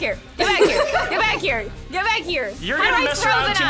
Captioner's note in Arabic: ضحك دراماتيكي